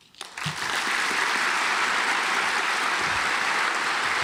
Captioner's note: audience applauds